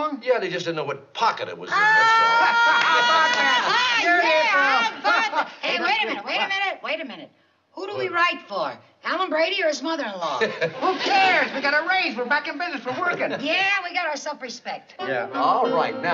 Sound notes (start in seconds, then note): 1.7 cheering and applause; 10.3 laughs